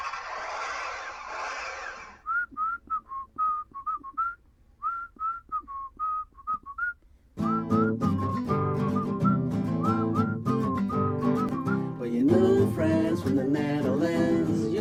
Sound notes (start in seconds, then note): 0.0 engine starting; 2.4 whistling